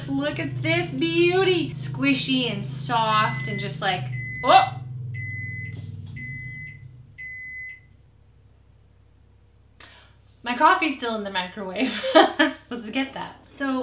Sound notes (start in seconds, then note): 3.0 microwave bleeps; 12.3 laughs